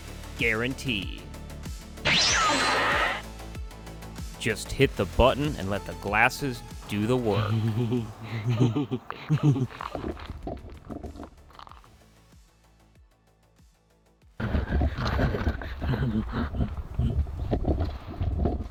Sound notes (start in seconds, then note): 11.0 unsettling laughter